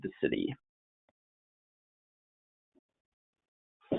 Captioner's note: silence